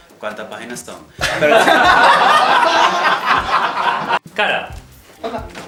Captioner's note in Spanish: Risas